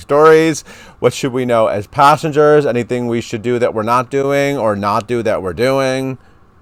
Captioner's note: none